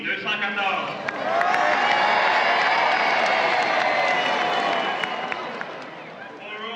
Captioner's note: crowd cheering